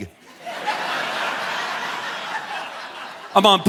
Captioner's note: audience laughing